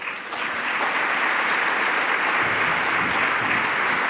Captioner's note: applause